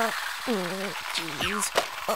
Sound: Tori groans

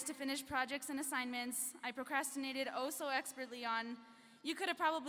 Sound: none

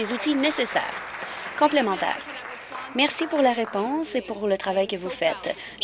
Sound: applause

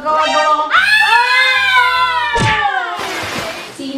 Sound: screams

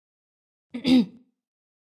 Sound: clears throat

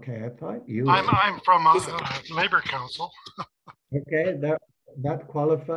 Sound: laughs

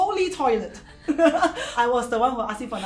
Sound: laughs

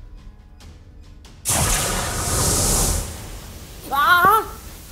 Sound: geyser exploded

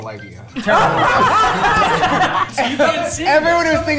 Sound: everyone laughing

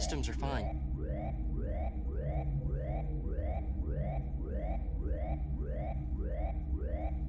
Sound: alarm blaring; suspenseful music

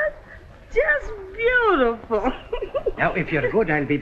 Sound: chuckles

